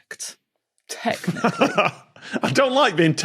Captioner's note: laughs tensely